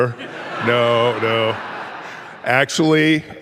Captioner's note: audience laughing